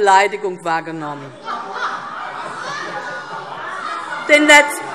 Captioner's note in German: Heiterkeit - Unruhe - Glockenzeichen